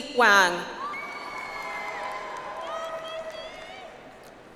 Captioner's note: audience applauds